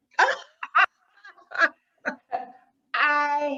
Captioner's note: loughs